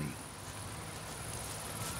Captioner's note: cicadas